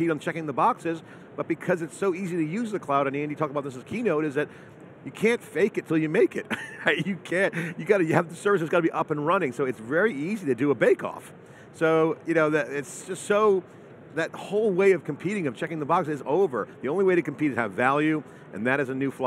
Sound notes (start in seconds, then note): 6.5 laughs